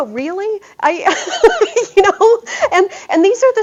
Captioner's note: laughter